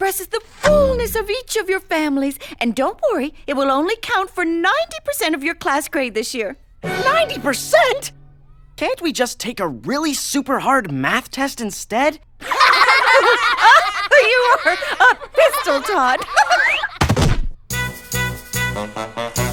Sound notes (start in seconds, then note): 12.4 laughing hysterically